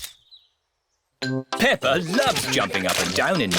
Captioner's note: camera clicks